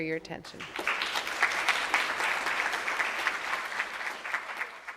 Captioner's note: audience clapping